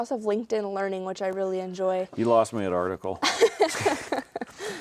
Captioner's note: both laughing